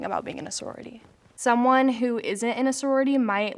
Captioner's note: none